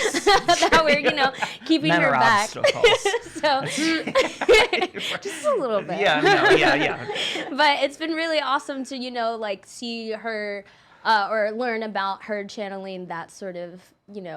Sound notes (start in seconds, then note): 4.3 laughing